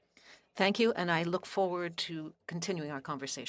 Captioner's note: speaking French